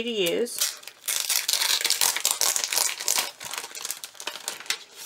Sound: paper crackling

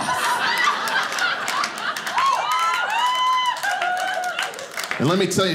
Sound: audience laughing

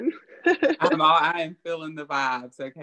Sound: laughs

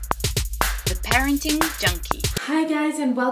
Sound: pop music; voiceover

